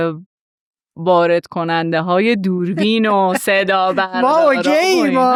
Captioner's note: laughs